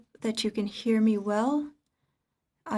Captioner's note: speaking French